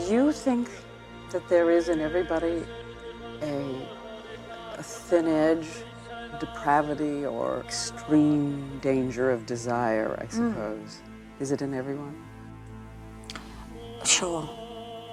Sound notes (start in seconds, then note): none